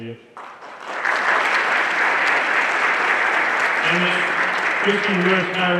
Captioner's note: everyone applauding